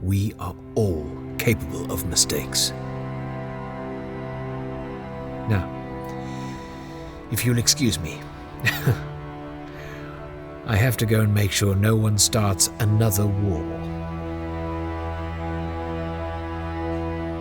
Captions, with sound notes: We are all capable of mistakes. Now, if you'll excuse me, (laughs) I have to go and make sure no one starts another war. [Transitional music]